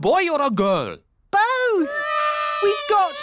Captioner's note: babies cry